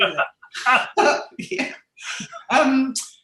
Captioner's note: both laughing